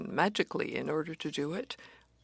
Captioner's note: speaking French